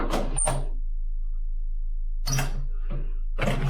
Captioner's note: latch clicks